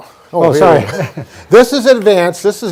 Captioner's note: laughs